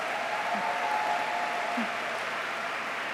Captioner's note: applause